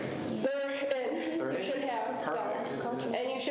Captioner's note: students chatter